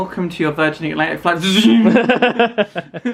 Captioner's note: Lightsaber noise; laughs